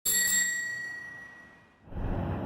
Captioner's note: bell ringing